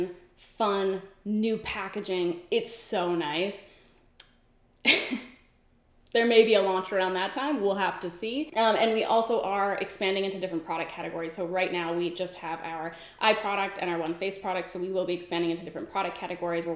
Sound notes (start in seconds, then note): 4.9 laughs